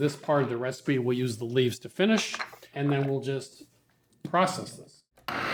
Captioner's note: blender whirring